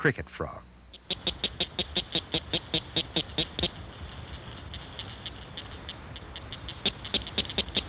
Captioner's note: Blanchard's cricket frog call